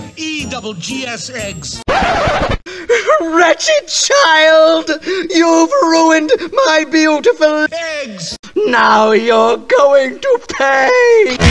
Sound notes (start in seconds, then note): 1.9 record scratch